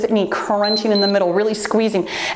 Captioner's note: timer beeps